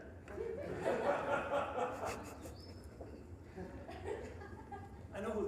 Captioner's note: audience laughing